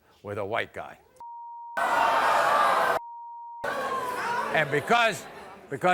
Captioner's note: audience yelling